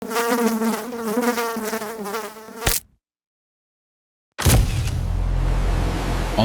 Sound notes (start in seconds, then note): 0.0 fly buzzing; 2.6 fly splatting